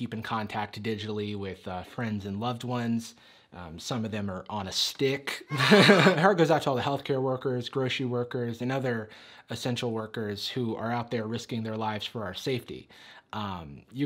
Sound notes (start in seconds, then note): 5.2 audience cheering